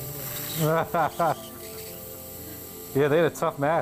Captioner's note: laughing